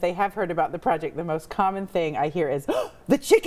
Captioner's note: gasps